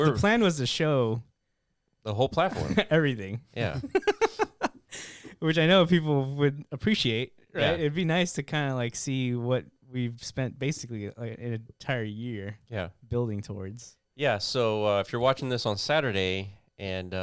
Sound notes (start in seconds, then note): 3.8 laughing